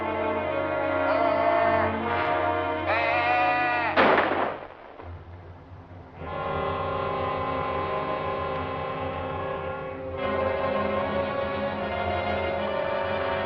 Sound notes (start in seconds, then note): 3.9 gunshot; 5.0 somber music